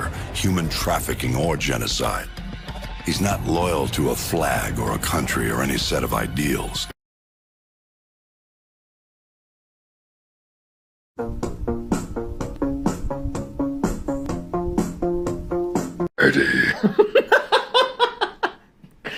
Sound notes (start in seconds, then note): 11.2 funky music; 16.2 laughing; 16.3 venom voice